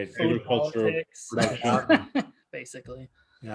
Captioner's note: laughs